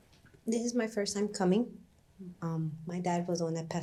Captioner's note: voice breaking